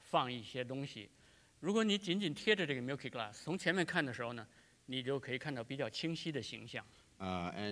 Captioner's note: speaking in Chinese